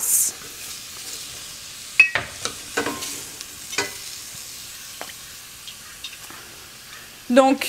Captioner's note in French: Kitchen Noise